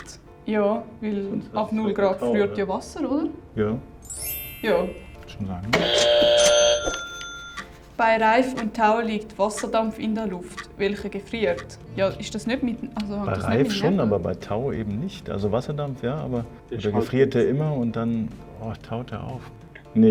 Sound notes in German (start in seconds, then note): 5.7 Buzzer